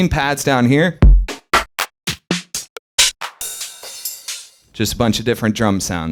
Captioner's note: various percussive sounds